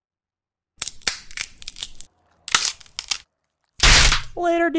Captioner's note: wood cracking; crashes